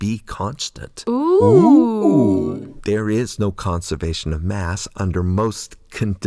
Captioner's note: OOO AHH sound